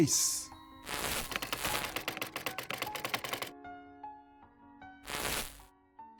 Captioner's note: keys clicking; static crackling